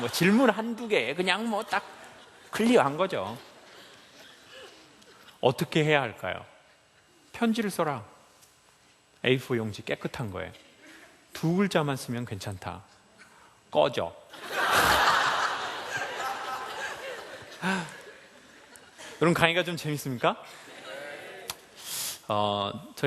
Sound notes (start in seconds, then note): 14.5 laughs